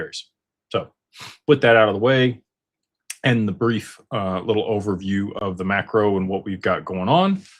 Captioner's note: snorts